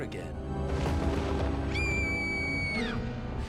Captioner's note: screaming